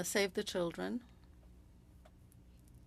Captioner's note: speaking french